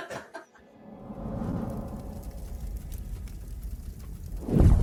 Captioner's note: both laughing; torch blazing